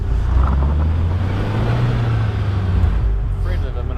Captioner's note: car engine roaring